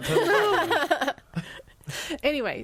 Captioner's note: all laughing